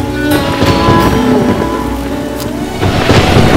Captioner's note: Clouds thundering